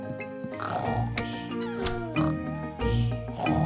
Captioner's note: both snoring